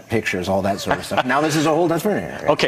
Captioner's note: laughs